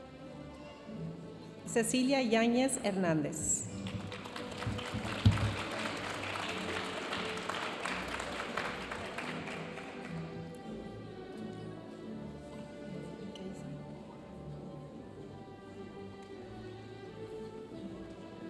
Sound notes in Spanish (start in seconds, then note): 3.7 aplausos de la audiencia; 10.9 continúa la música majestuosa suave en el fondo